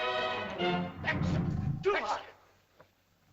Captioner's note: triumphant music; speaking in caveman language